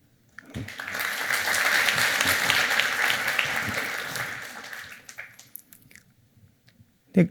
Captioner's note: applause